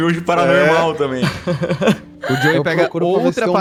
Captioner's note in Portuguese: Calango e Erin riem